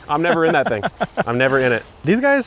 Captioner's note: laughing